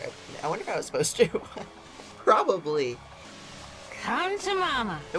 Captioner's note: laughs